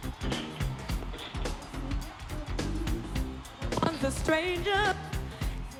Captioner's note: sound cuts in and out